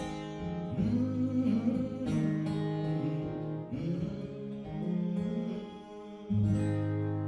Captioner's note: humming